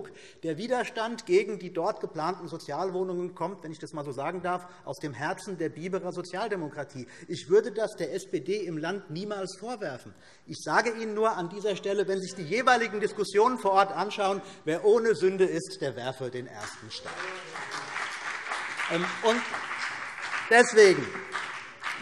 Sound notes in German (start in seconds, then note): 16.6 Beifall BÜNDNIS 90/DIE GRÜNEN und vereinzelt CDU